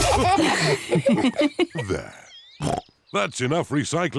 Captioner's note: snorts